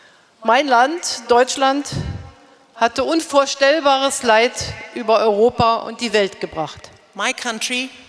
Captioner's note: speaking in German